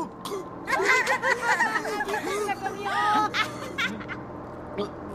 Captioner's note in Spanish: risas